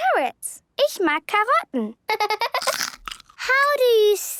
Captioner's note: laughter